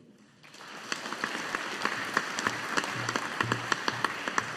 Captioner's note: audience applauding